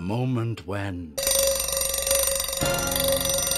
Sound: alarm bell rings

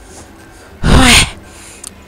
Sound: sigh

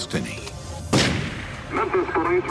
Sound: gunshot

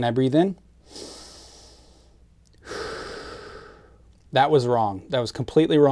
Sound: exhales; inhales

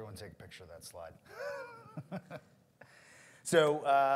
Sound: laughs

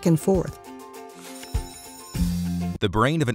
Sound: bell rings

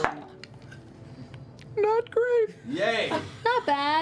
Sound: high voice

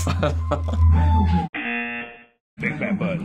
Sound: buzzer

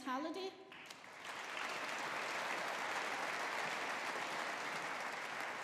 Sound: audience applauding

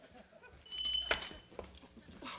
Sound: doorbell dinging

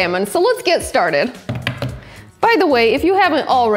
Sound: hands thumping

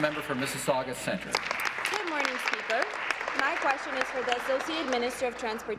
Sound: applause

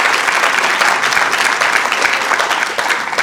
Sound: applause

